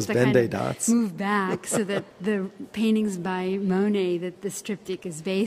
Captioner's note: laughs